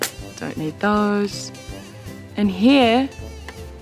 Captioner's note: scissors clatter